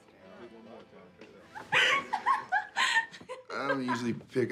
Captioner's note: woman laughing